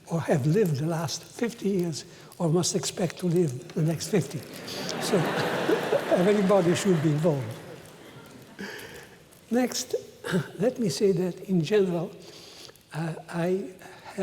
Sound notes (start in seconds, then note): 4.0 laughter